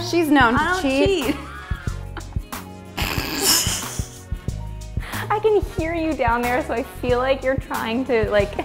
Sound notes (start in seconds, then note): 1.3 period of awkward laughter